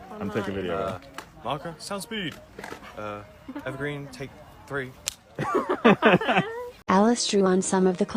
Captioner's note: laughter